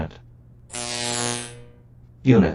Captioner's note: electric shorting sound